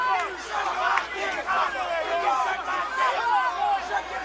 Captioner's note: crowd hollering